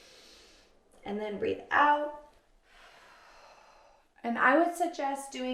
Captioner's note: inhales deeply; exhales sharply